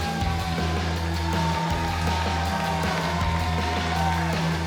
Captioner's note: crowd cheering